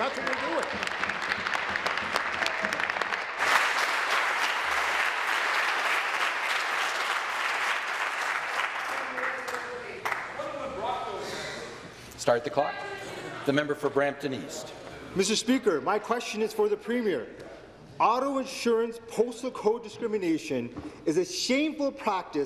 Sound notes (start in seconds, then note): 4.3 applause